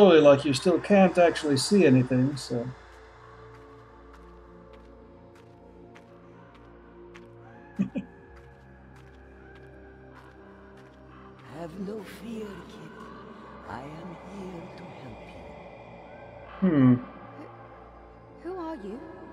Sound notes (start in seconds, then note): 7.7 chuckles